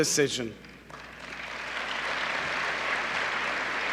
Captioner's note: applause